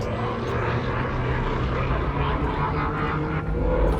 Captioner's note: rising hum